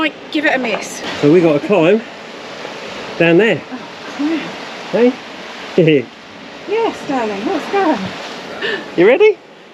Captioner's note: laughs